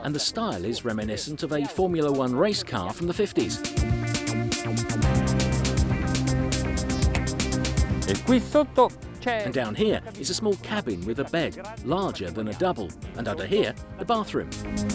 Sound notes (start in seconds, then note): 3.7 upbeat music; 8.3 foreign language; 14.7 upbeat music